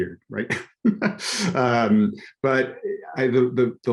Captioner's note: laughs